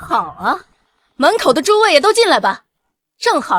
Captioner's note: laughs